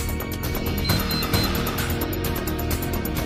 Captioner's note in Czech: Pípání